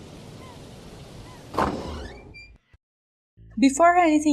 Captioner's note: seagulls; door opening